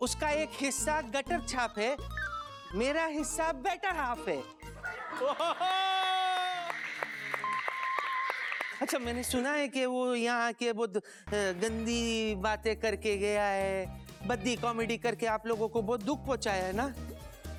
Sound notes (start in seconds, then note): 5.6 applauding